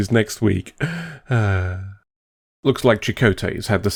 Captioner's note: amused sigh